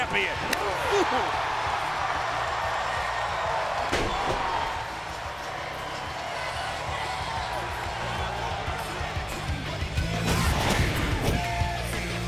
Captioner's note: crowd chatter